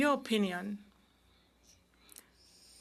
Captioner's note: speaking French